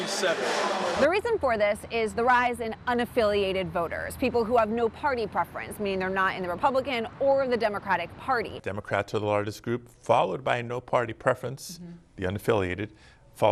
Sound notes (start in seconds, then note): none